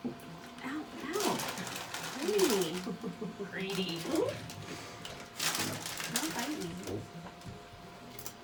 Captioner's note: laughing